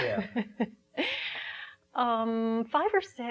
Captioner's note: laughing